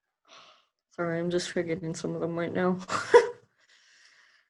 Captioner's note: laughs